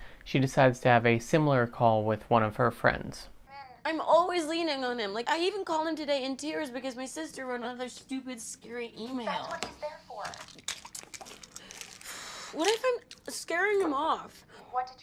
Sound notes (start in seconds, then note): 3.5 sobbing